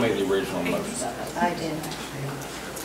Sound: overlapping chattering

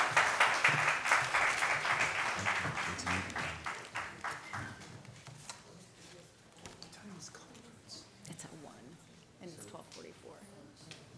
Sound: applause

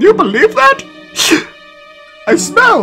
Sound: sniff

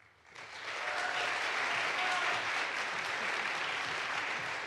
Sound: audience applauds

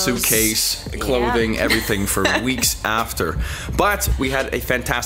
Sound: chuckles

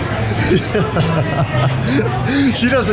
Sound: laughing

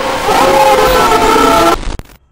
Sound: elliot scream

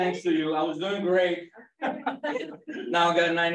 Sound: laughter

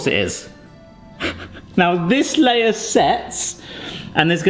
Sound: laughs

